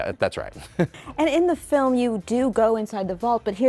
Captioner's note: person laughing